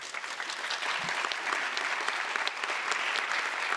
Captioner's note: audience applause